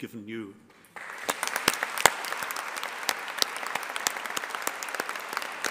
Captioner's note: audience applauding